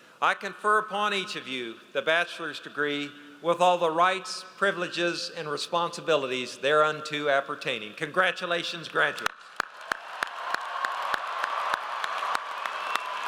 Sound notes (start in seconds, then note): 9.3 audience applauds